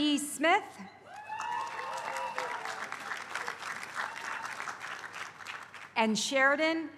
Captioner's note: applause